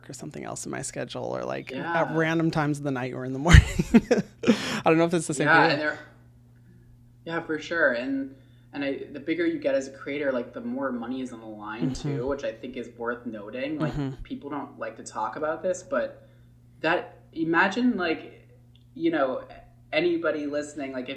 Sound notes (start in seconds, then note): 3.4 laughs